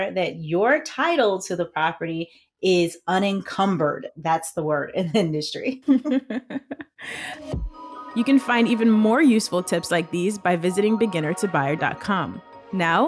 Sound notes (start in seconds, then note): 5.8 both laughing; 7.1 gentle music